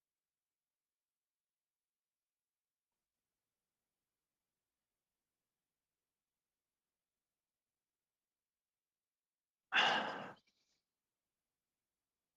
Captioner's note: silence